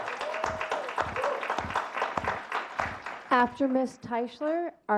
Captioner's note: clapping